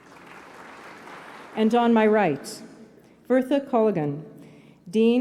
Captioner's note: applause